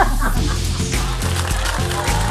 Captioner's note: laughter